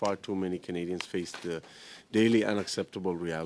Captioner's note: speaking French